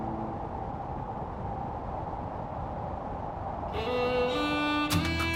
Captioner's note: wind blowing